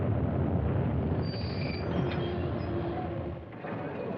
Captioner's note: train Brakes Screeching